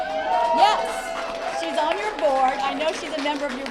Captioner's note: cheering and applause